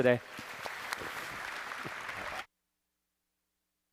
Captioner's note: applause